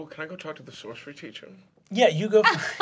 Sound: laughter

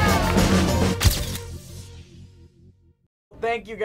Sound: all cheering; camera shutter snapping

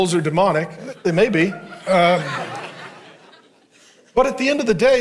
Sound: congregation laughing

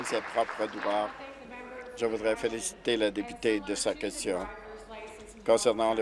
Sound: applause

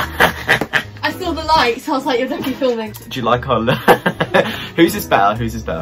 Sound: laughs; laughs

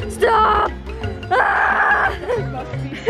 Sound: laughs

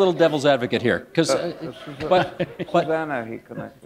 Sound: laughter

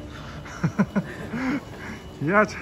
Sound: laughing

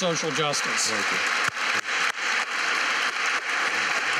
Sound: applause

